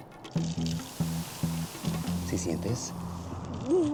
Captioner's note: fizzing; speaking spanish